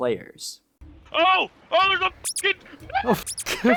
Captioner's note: beep